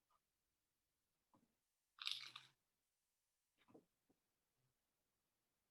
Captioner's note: crunch